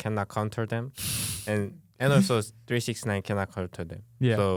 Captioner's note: laughs